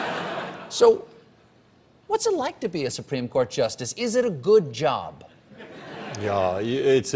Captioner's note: laughter